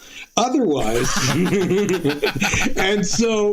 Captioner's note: laughing